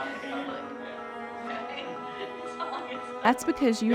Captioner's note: laughs